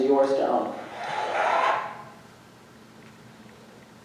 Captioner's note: audience cheering